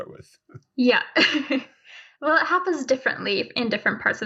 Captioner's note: chuckling